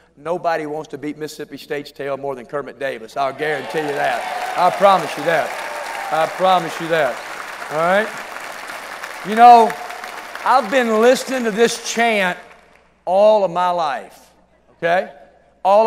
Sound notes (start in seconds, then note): 8.9 cheering and applause